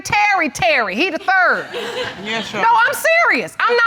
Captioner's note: audience laughs